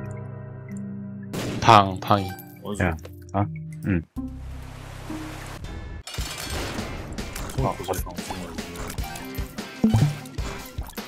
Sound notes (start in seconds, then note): 9.8 Dicord Noise